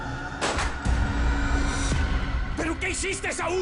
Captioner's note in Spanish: Disparo